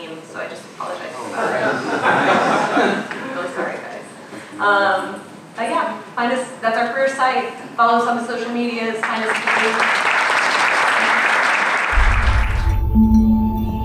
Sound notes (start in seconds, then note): 1.2 audience laughing; 9.0 applause